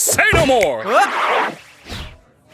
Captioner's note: yelps